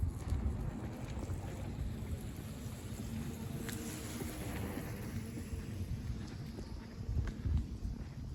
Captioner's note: bicycles passing